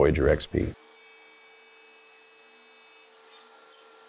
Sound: saw screeching

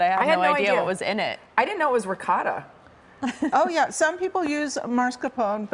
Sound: laughter

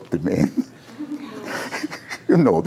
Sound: laughter

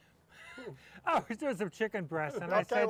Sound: laughing

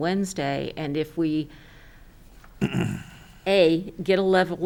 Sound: clears throat

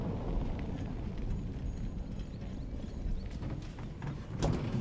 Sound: bell jingling

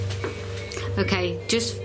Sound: loud beeping

